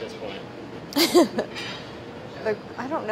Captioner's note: laughing